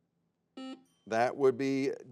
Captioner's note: buzzer beeps